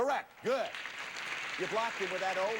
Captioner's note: audience applauding